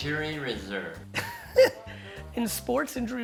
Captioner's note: laughing